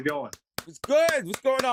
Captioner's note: clapping